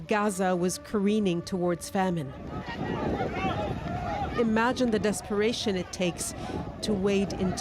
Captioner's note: siren wails